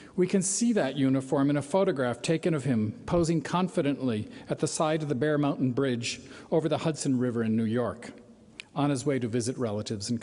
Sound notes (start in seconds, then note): none